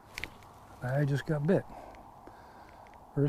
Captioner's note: rod whipping